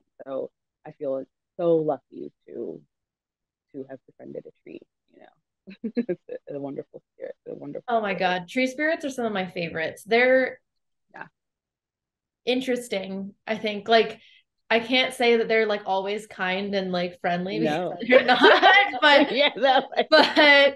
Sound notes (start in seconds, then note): 5.8 laughs; 17.9 laughs